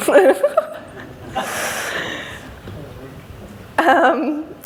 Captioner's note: laughs